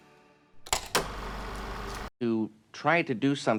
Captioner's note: film reel flapping